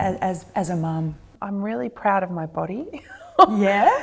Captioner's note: laughs